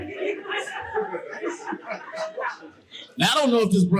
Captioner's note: audience laughing